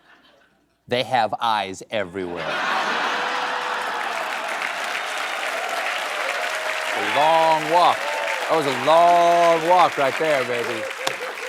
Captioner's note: laughter